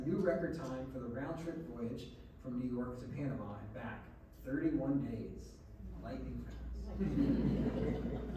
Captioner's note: laughter